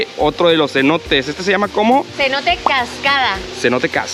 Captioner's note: waterfall